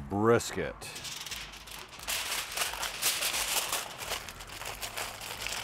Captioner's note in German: Folie knistert